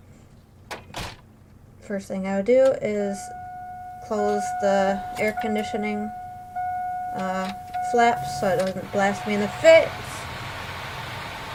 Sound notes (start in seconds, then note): 3.0 seatbelt alarm beeping